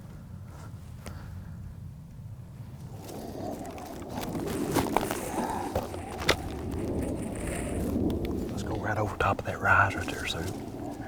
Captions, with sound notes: (wind whistling) Let's go right over top of that rise right there, sir.